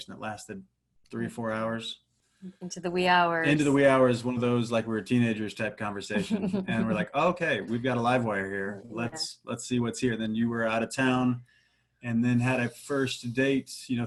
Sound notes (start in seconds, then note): 6.1 laughs